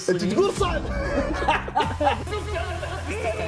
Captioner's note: laughter